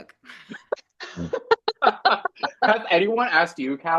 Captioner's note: everyone laughing